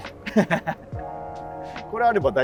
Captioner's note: laughing